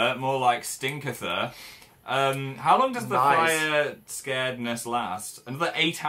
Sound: laughs

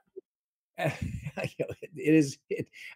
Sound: laughs

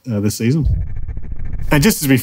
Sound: transition reverberates

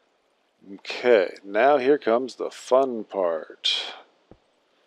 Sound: sarcastically

